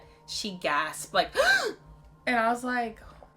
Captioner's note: gasps